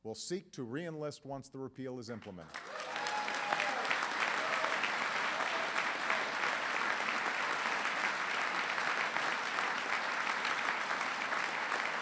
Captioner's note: applause